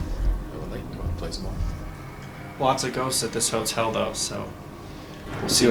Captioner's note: faintly speaking